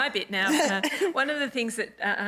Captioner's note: laughs